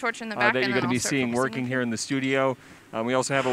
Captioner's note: blowtorch starts